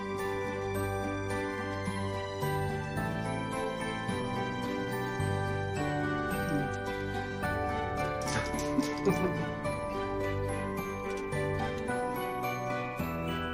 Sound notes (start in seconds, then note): 8.4 both chuckling